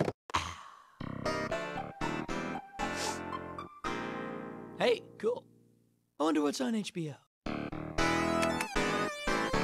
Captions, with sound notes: Ah! (sniffs) Hey, cool. I wonder what's on HBO?